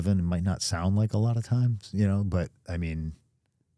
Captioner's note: none